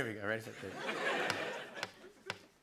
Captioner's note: laughter; tapping